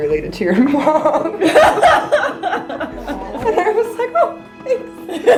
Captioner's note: group laughing